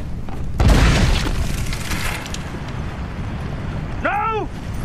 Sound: canon shoots

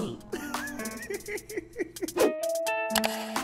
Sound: chuckles

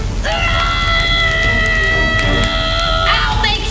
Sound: screams

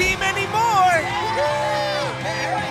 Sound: cheering

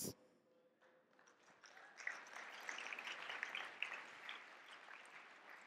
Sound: audience clapping

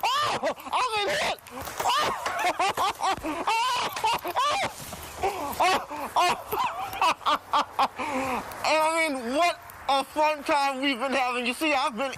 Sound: laughter

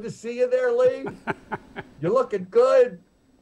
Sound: laughing

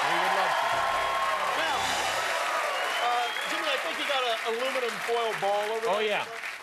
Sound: cheers and applause

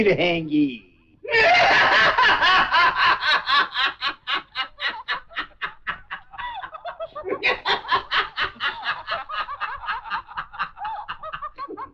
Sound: laughs

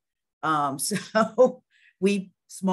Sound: chuckles

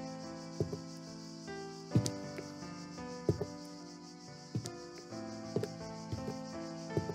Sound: footsteps

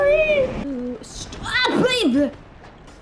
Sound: panicked falling noises

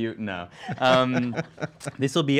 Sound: laughing

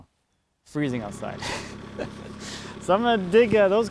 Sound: laughing

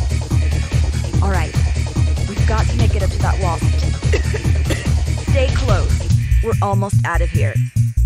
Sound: coughs

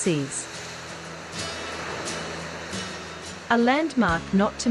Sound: sea waves

